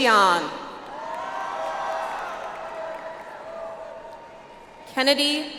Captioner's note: audience applauds